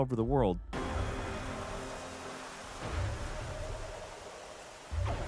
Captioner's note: footsteps thud